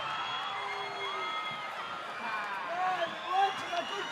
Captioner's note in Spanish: Aplausos y vítores